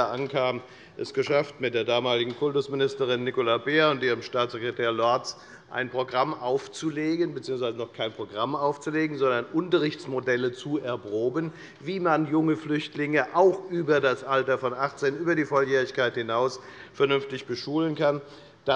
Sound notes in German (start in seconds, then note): none